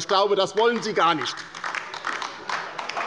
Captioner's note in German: Beifall bei der LINKEN